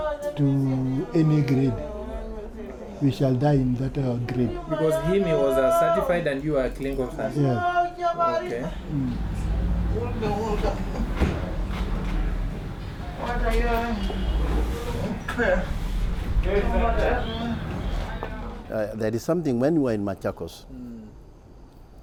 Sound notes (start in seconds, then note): 8.8 sounds of malaria patient being sick